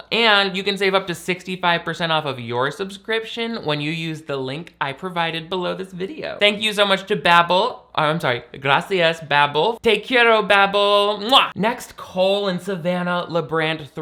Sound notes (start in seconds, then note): 9.8 speaking in foreign language